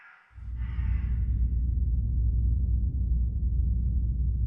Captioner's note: bird squawking; low rumbling